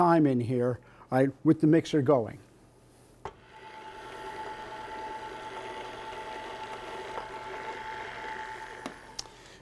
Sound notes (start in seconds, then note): 3.2 mixer whirring